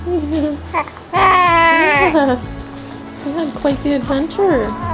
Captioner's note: baby cooing